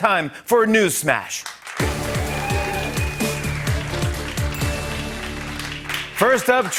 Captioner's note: applause